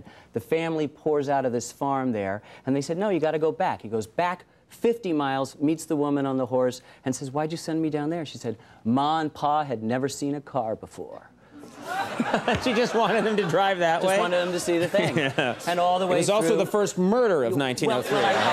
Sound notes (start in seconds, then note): 11.6 crowd laughing